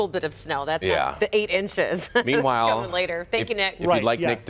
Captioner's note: laughter